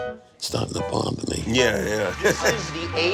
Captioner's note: laughing